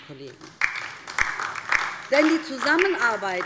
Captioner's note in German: Beifall DIE LINKE